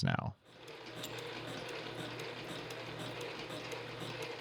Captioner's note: machine whirring